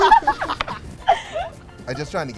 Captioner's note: laughter